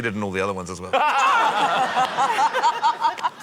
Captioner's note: laughter